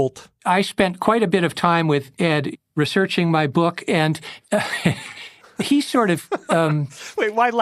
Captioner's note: laughs